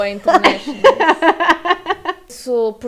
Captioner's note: laughs